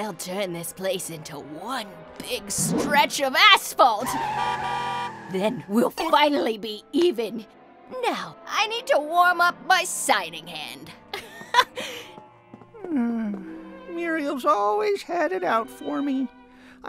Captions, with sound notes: - They'll turn this place into one big stretch of asphalt! (car horns) Then, we'll finally be even! Now, I need to warm up my signing hand. - Muriel's always had it out for me.